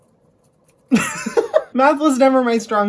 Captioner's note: laughs